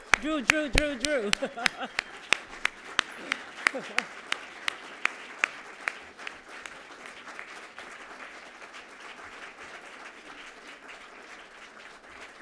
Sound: applause

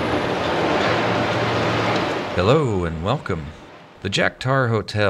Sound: construction noise fades away

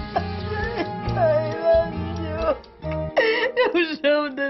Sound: cries

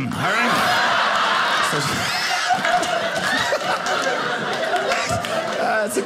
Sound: audience laughing

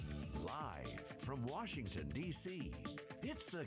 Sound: voiceover

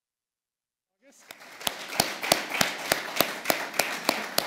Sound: applause

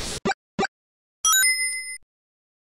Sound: ding!

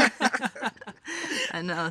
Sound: all laughing

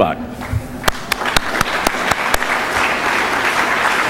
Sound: applause

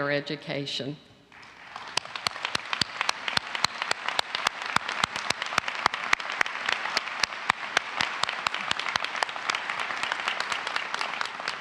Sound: applause

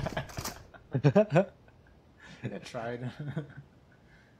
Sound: laughter

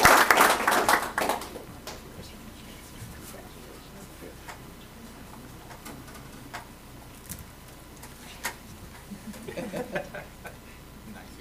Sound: applause

